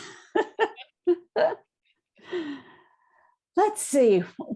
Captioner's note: both laugh